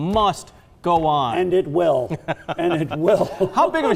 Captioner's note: laughs